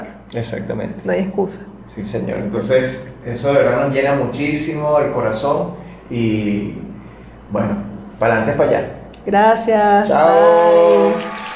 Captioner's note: applause